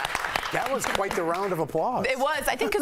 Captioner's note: applause